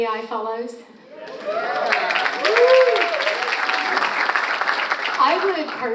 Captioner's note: audience applauds and cheers